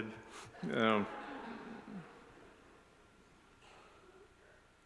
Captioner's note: audience laughs